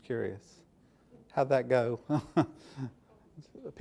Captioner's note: softly chuckles